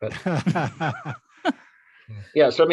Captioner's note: laugh